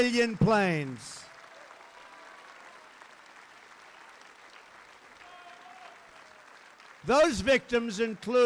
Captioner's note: applause